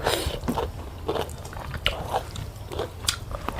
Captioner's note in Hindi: नाक से की जाने वाली आवाज़